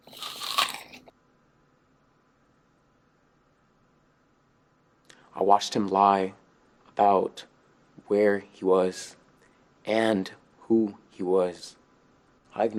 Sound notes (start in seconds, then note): 0.0 teeth biting apple